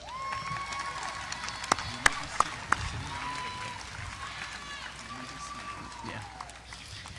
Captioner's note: audience applause